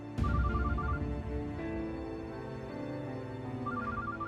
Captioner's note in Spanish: suena el celular